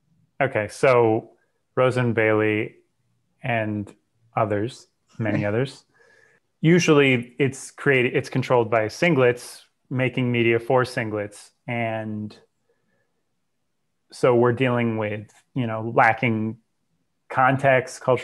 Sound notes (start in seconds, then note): 5.8 breath